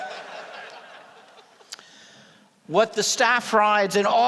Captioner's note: laughter